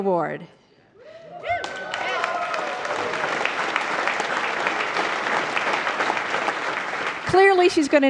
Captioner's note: applause